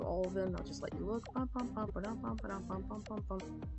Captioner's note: hums a lil tune